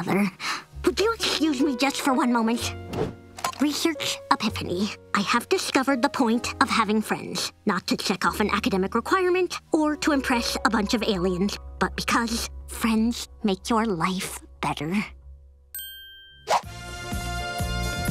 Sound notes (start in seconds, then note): none